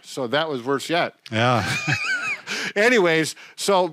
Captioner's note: laughing